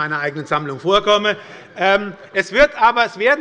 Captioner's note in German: Heiterkeit bei der SPD